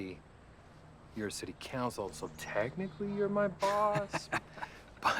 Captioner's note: Dev laughing